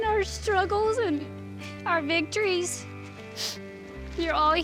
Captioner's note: sniffles